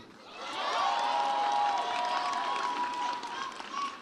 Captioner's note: audience cheers